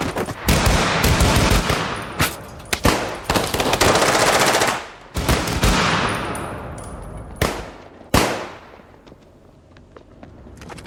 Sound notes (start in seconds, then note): 3.7 guns firing